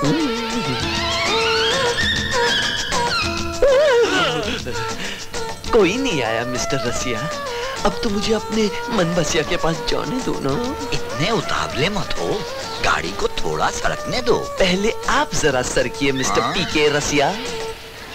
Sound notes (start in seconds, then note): 3.5 gasps